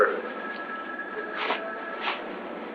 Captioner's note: phone ringing in distance